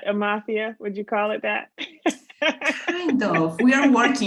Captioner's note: laughs